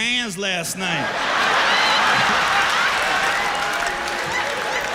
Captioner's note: laughter; cheers and applause